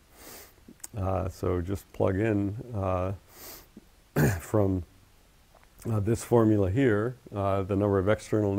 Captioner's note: cough